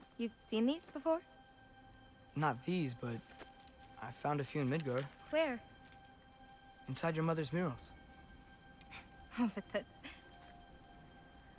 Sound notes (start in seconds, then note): 9.3 laugh